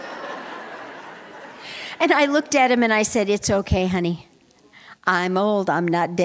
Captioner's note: laughter